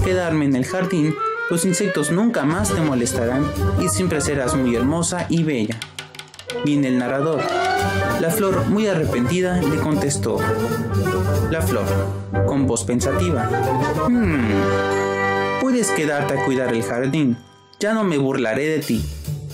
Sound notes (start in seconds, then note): 11.6 thoughtful voice